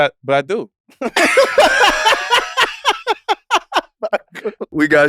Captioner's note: laugh